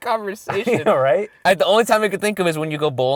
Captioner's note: voiceover